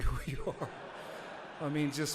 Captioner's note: audience laughs